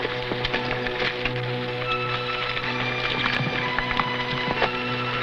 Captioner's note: horse hooves pattering